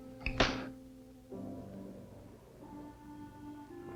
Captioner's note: gentle music; metal clanking; gentle music